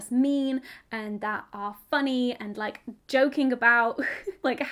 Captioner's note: giggles